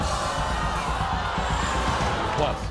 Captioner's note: crowd cheering